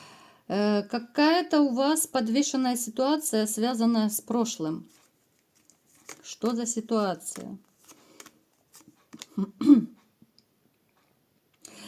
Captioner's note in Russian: откашливается